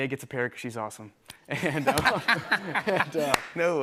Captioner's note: laughter